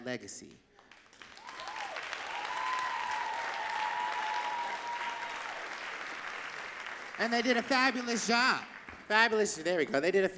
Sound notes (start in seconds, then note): 3.5 audience cheering and clapping